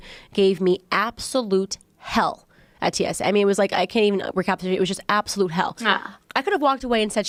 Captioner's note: ahh